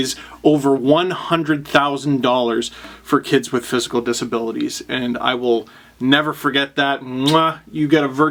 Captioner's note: kiss